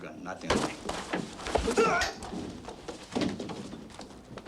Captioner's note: all moaning